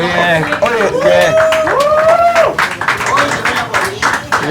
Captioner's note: applause and cheers